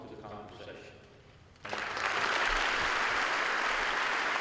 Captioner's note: applause